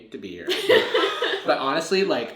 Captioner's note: laughs